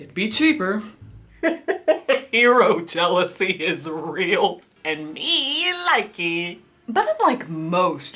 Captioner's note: laughs